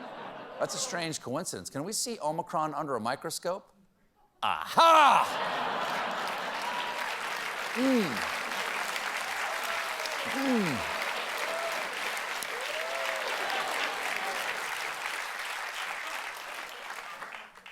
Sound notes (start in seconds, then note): 4.8 applause; 6.2 laughter